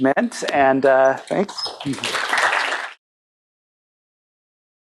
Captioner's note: applause